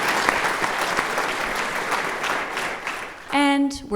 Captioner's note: applause